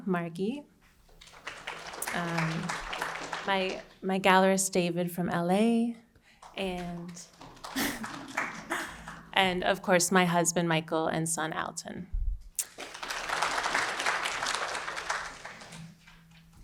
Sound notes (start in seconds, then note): 1.1 audience applauding; 6.4 audience applauding; 7.7 chuckles; 12.6 audience applauding